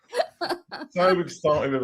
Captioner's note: laugh